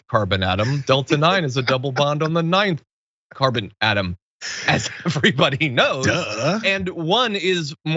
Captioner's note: laugh